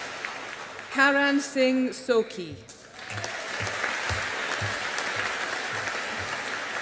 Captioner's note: audience applauding